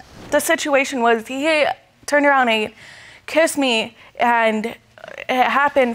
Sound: stammering

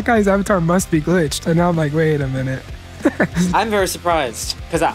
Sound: laughs

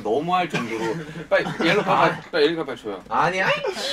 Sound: giggles again

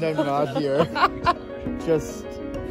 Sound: laughing

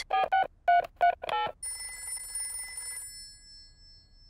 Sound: dialing phone; phone rings

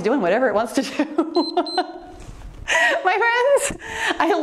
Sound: timer beeps

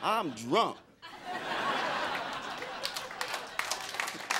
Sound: crowd laughing

